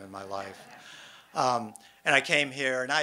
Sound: audience laughs

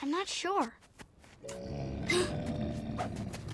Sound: gasping, Appa grunting; grunting

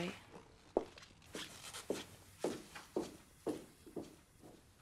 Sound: footsteps

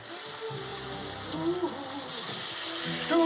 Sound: humming

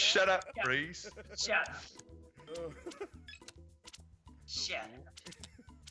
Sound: laugh

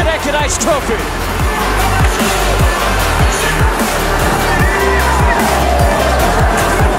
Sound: upbeat music; crowd cheering

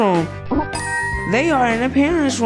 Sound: ding sound effect

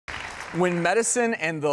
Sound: audience clapping

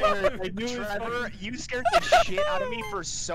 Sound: laughter; laughter

